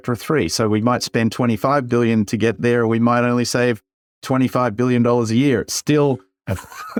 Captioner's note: laugh